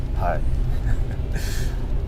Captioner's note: chuckles